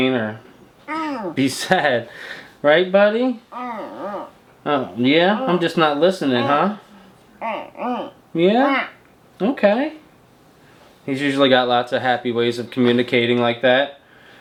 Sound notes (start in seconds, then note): 3.6 humming